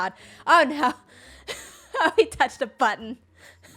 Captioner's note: laughs